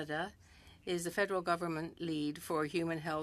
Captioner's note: speaking French